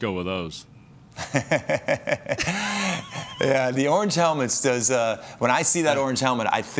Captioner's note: chuckles